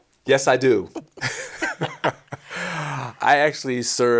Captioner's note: laughs